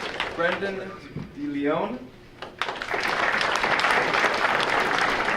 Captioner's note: audience applauding